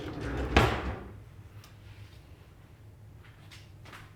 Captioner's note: drawer opens; drawer shuts